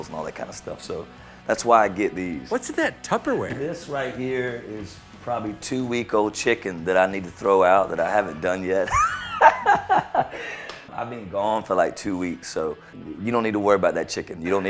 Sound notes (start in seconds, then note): 8.2 laughs